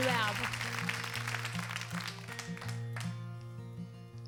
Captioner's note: audience claps; gentle acoustic music